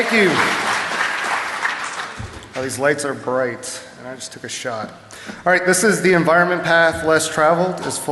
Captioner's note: applause